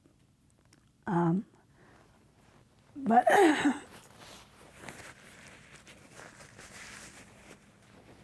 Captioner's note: she clears her throat